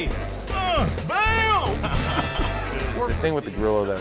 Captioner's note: chuckles